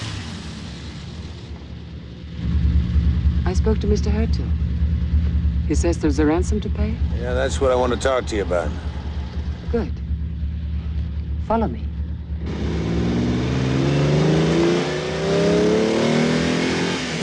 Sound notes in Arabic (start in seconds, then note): 13.3 هدير المحرك